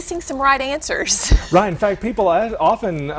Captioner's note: chuckle